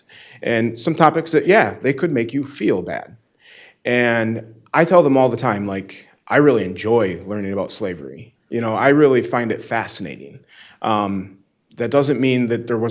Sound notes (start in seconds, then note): none